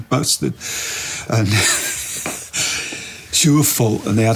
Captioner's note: laughs